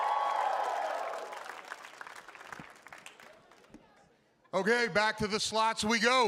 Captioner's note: applause